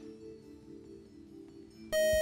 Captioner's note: time up buzzer